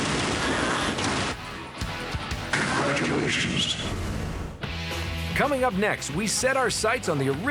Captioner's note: gunfire